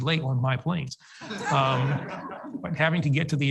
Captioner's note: audience laughs